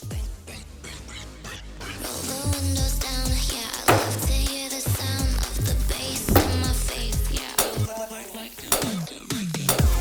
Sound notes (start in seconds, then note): 3.8 item bangs